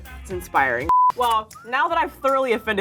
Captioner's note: electronic bleep